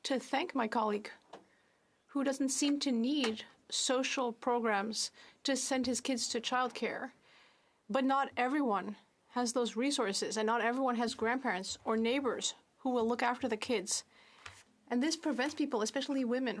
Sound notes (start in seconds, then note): 6.0 speaking French